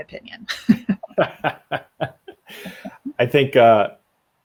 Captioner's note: laughs; laugh